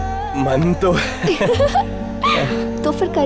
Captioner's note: Laughs